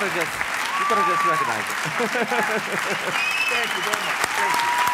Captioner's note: chuckles